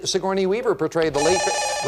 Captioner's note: beep